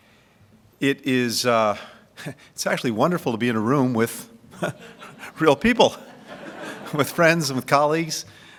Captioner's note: laughter